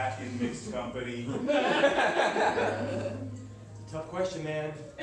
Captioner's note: laughter